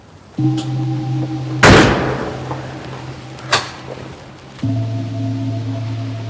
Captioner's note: door slams; lock clicks